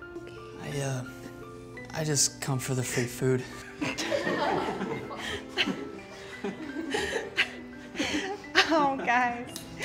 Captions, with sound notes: - I er, I just come for the free food. (everyone laughing) - Oh, guys.